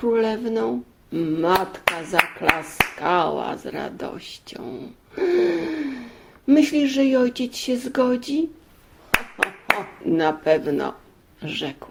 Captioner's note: clapping